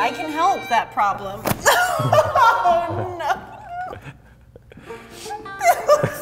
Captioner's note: bun thwacking; laughing